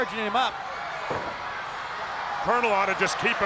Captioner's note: crowd yelling